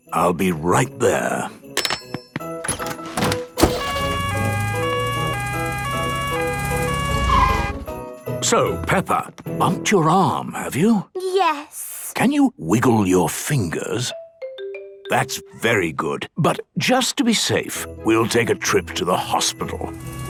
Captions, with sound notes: I'll be right there! - (siren sounding) - So, Peppa! Bumped your arm have you?! - Yes... - Can you wiggle your fingers? - (wiggle music) That's very good. But just to be safe, we'll take a trip to the hospital.